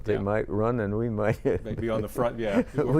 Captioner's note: chuckling